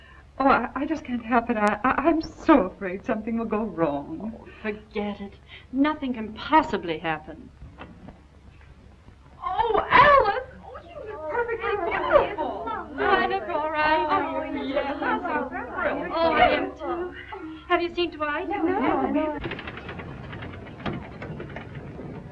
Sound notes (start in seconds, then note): 14.8 women chattering; 19.4 engine rumbling